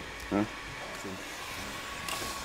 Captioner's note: hair dryer noise